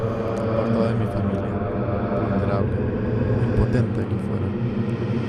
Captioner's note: ghostly voice